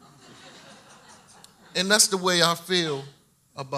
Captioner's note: audience laughs